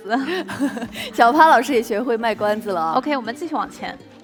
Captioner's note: laughs